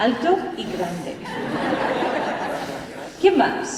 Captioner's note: laughter